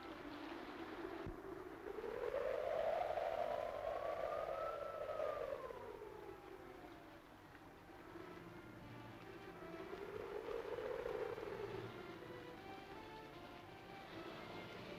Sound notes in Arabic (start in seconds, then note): 1.2 هبوب الريح; 10.1 موسيقى درامية